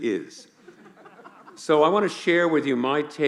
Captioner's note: laughing